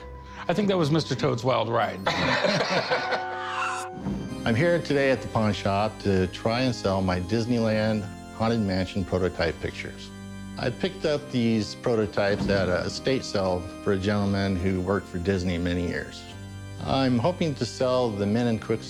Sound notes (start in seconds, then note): 2.0 laughter